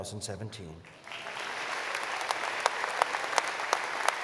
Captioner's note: applause